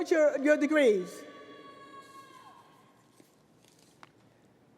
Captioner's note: crowd booing